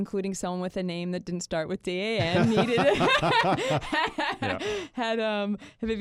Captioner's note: hosts laugh